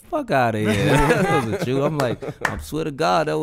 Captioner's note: hosts laughing